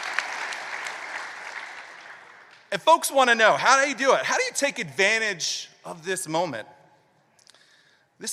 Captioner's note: applause